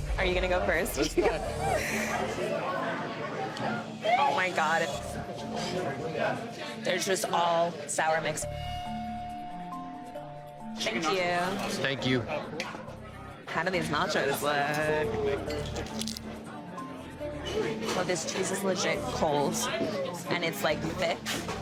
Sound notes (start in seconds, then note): 1.4 laughing; 8.6 tense music